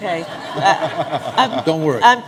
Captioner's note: laughter